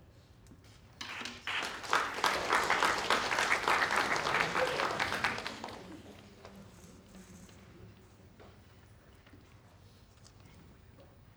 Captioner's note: applause